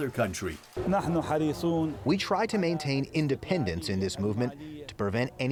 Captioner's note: through translator